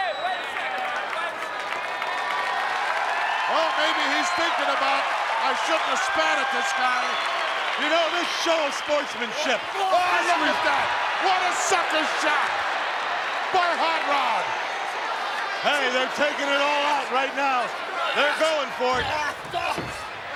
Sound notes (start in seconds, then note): 1.8 audience clapping